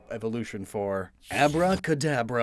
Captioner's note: glitch SFX